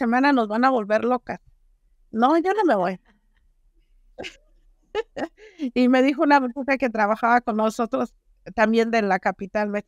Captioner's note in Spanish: risas